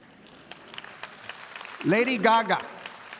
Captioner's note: audience applauding